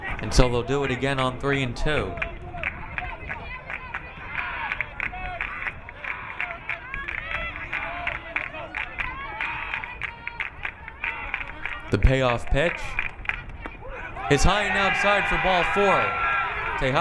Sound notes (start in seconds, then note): 3.7 crowd clapping